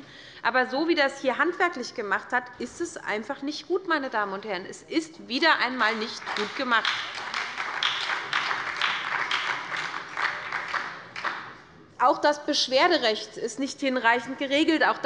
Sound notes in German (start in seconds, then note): 5.8 Beifall bei der SPD